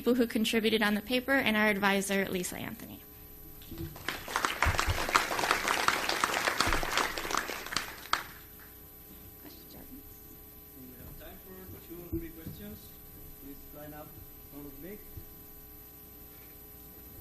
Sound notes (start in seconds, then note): 3.8 applause